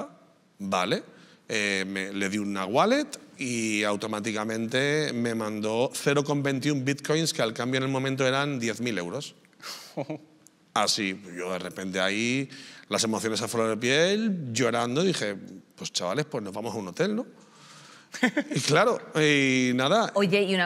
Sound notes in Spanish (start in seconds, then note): 18.1 ríe